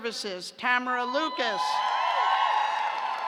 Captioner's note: cheers